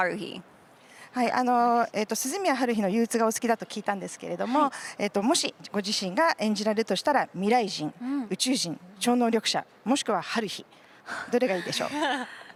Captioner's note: interpreter’s translating in Japanese